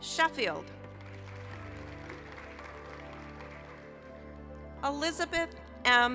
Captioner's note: applause